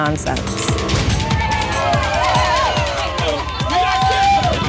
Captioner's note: shouting and cheering